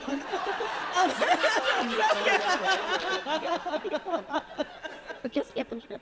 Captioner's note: panel and audience laughing